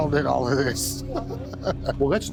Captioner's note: laughs